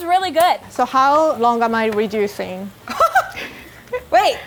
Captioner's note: sizzling; laughing